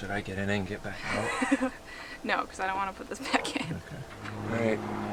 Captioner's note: chuckles